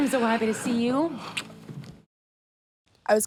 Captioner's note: lips smack